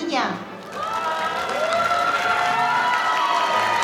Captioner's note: audience cheering